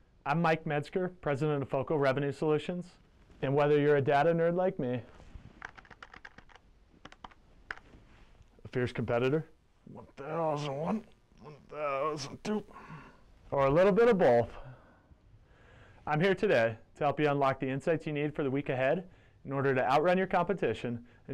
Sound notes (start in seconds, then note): 5.6 keyboard clicking